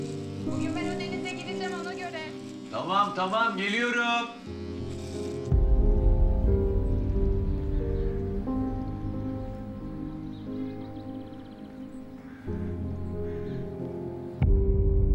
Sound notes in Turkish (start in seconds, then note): 5.5 Kuş cıvıltısı sesleri